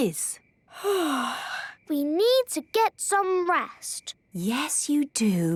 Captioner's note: yawning